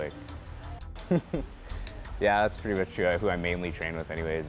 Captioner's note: chuckles